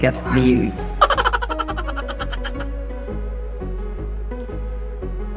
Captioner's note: laughs